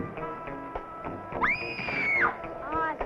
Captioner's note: screams